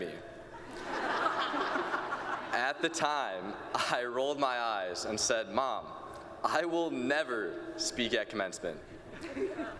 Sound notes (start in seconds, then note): 0.6 laughter